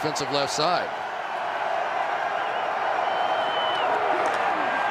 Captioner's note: cheering